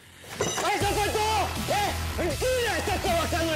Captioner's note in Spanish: Gritando